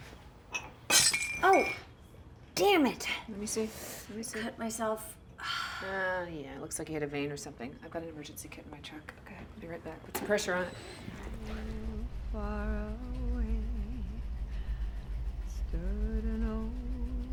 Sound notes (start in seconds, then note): 0.5 glass breaks; 12.3 singing